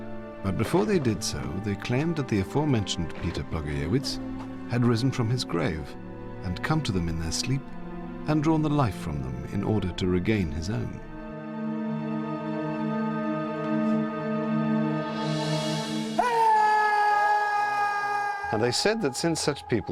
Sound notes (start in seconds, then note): 16.1 man screams